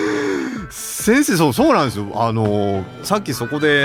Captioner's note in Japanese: 息をのむ音